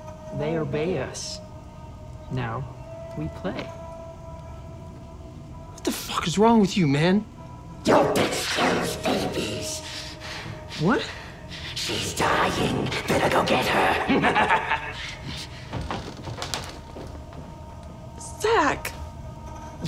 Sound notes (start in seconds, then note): 13.4 malevolent laughter